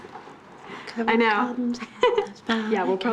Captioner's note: giggles